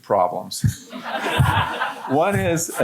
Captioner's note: audience laughing